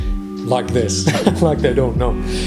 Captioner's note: he laughs